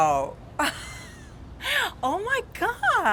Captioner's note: driver laughing